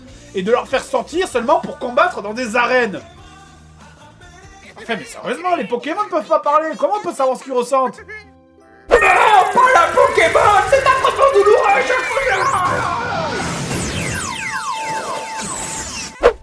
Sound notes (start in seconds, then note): 8.8 "Caterpie" voice